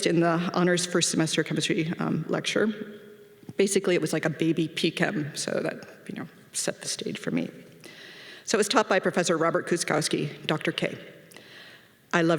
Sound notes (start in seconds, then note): none